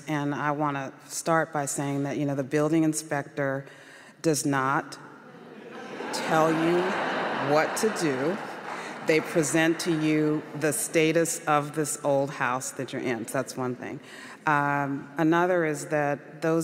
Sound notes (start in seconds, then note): 8.3 audience laughs